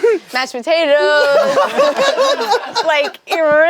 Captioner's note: group laughs